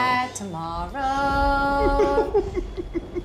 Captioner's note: crying